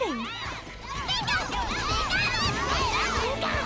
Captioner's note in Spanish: preocupado